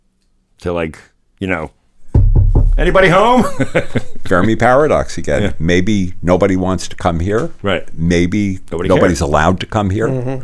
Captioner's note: knocks on table